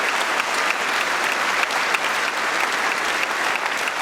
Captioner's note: cheering & Applause